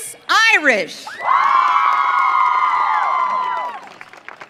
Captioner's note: audience cheering